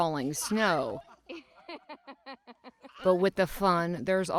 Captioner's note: laughter